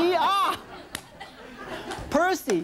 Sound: audience laughs

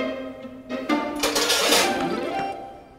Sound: utensils clanking

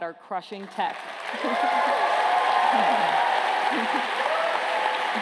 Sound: applause

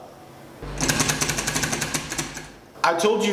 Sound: clattering

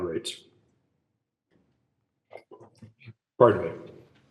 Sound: sips water

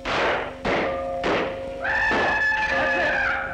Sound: whistling

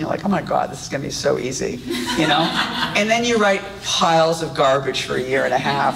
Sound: audience laughs

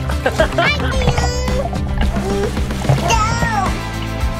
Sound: babbles

